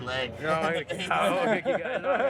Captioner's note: laughter